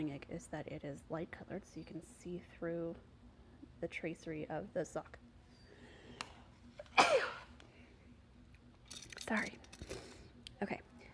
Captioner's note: sneezes